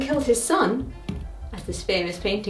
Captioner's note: pointer thuds